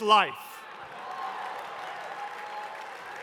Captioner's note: cheering